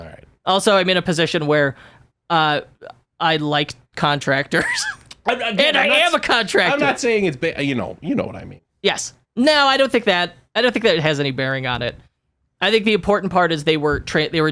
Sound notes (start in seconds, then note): 4.6 laughs